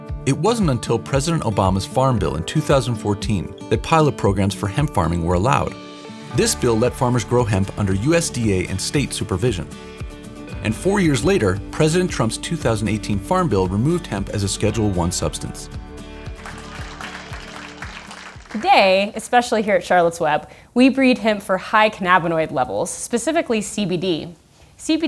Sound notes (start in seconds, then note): 16.3 onlookers applauding